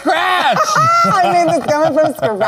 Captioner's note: Lady Camden laughing